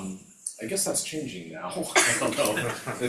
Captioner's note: laughs